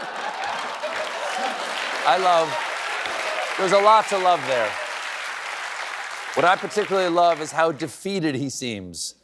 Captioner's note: laughter and applause